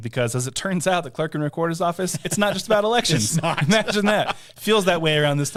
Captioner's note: laughing